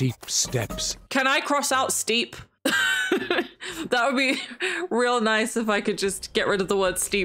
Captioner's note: laughs